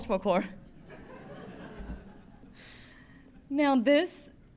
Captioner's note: laughter